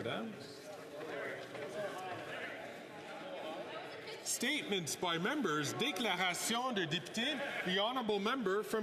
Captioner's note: speaking French